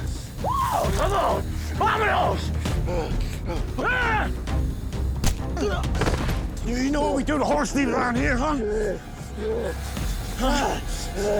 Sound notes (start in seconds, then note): 4.1 shouting, struggling; 9.8 struggling, iron sizzles